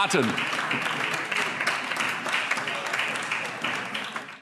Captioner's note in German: Vereinzelter Beifall